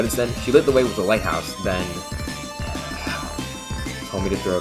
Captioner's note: sigh